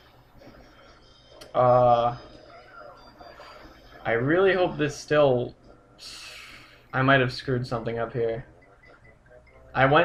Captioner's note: sighs